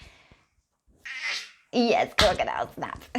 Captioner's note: baby murmurs